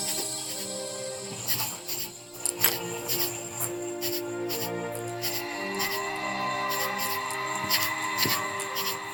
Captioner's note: crickets chirping